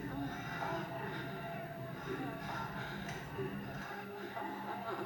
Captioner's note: people moaning